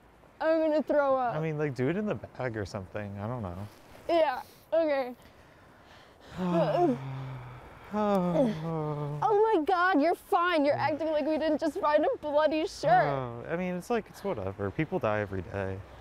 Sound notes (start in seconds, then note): 8.6 retches; 8.6 sighs